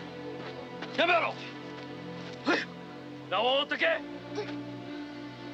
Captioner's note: somber music; speaking Japanese